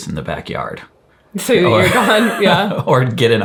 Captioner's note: chuckles